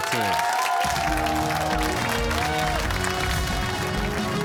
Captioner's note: cheers and applause